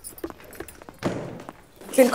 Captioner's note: Door closes